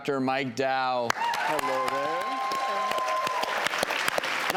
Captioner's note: applause